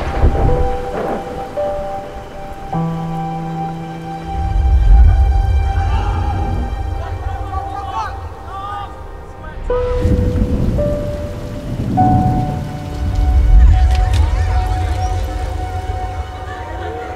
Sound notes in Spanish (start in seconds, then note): 5.8 gente hablando; 13.3 murmullos; 13.3 ruido bicicleta; 15.4 gente hablando